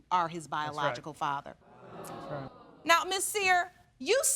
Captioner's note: audience react